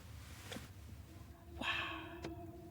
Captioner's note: whispered